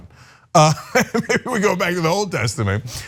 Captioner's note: laugh